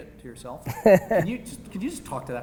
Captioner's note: Gary laughing